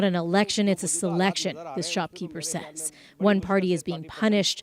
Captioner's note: speaking alternate language